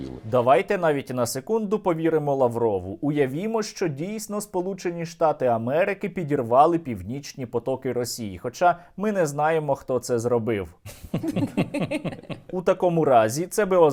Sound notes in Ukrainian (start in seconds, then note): 10.8 сміх